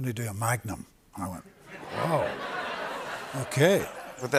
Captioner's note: laughter